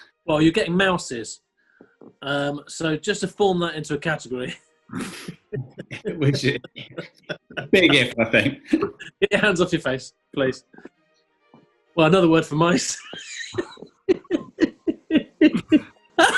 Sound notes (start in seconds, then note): 4.9 laughing; 12.0 giggling; 16.2 laughter